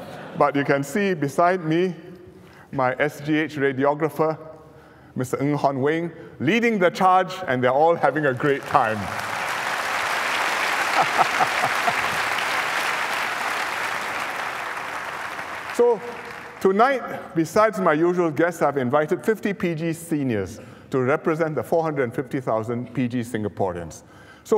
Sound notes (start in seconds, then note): 8.3 applause